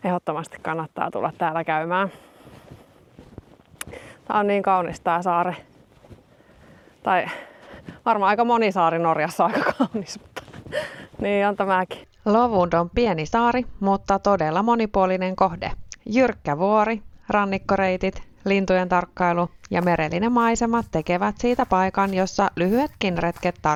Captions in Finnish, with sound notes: Ehdottomasti kannattaa tulla täällä käymään. Tää on niin kaunis tää saari. Tai varmaan aika moni saari Norjassa on aika [naurua] kaunis, mutta niin on tämäkin. Lovund on pieni saari, mutta todella monipuolinen kohde. Jyrkkä vuori, rannikkoreitit, lintujen tarkkailu ja merellinen maisema tekevät siitä paikan, jossa lyhyetkin retket